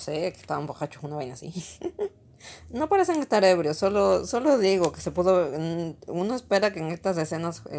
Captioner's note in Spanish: risas